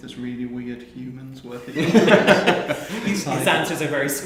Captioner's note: men laughing